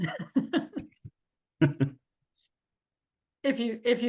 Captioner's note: both chuckles